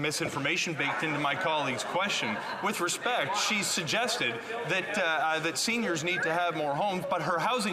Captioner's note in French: voix de l'interprète